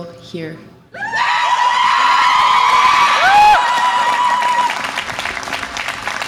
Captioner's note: audience applause and cheer